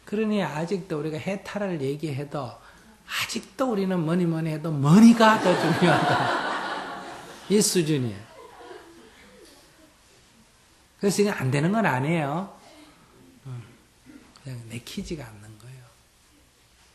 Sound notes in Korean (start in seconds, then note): 5.2 청중 웃음